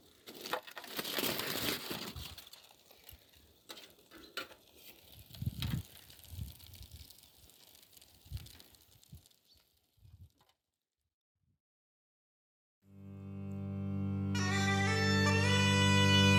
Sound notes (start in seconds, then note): 1.3 foil rustling; 5.8 sizzling